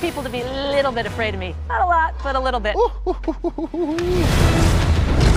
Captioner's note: laughing